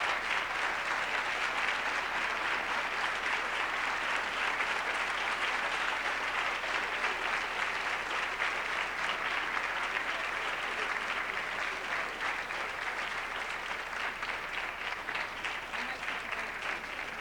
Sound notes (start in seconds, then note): 0.0 applause